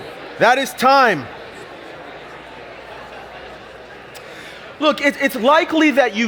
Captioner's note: audience chatter